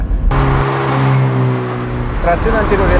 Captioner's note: engine at ideal torque